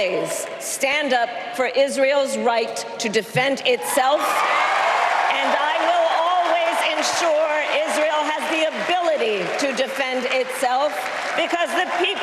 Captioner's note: applause